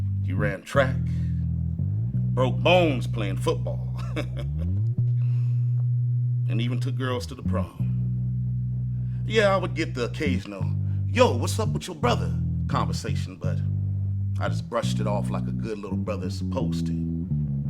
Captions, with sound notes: He ran track, broke bones playing football. (chuckles) (bright music) And even took girls to the prom. Yeah, I would get the case, you know, "Yoh, what's up with your brother?" Conversation, but I just brushed it off like a good little brother supposed to.